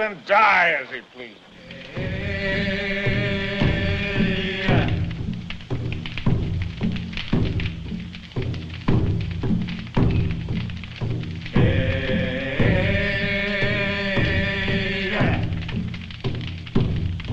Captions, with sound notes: Can't even die as he pleases. - [ Drum Beating ] - [ Men Chanting ]